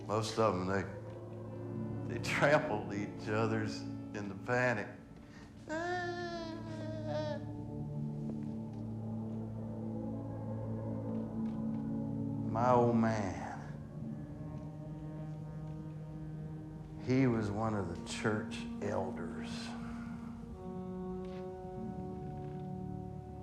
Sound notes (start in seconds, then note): 5.6 melodramatic wailing; 10.1 somber music; 20.6 somber music